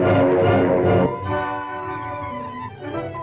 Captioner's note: beeping